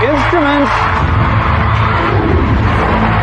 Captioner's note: cheering and applause